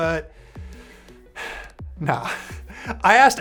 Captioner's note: sighs